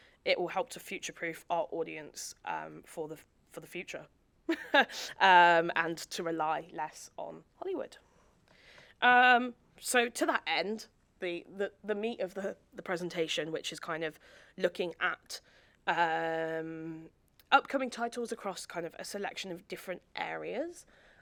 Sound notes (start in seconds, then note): 4.5 chuckles